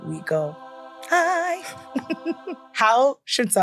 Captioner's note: gentle angelic music; laughs